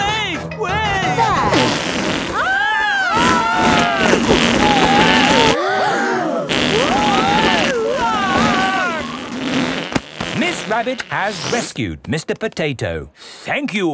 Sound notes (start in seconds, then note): 2.3 both screaming; 6.0 crowd gasps; 7.7 screaming